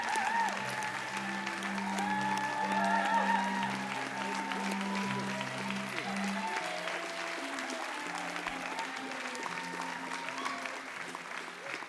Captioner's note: applause